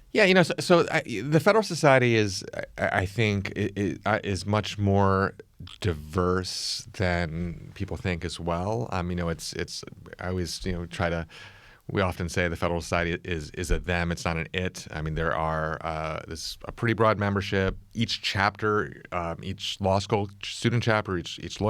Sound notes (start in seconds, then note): none